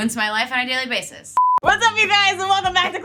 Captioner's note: beep